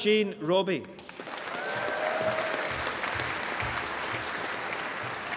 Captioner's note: applause